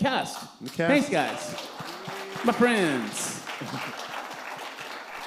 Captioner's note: applause